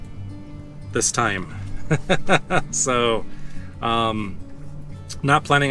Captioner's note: laughs